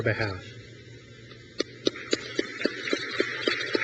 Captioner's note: crowd claps